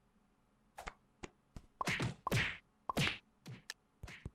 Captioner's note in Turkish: çat çut vurma sesleri